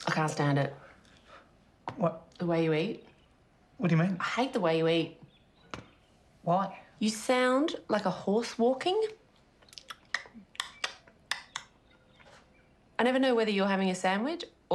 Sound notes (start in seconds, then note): 9.9 clicking